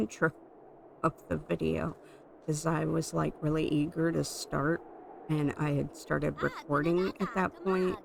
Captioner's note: laughing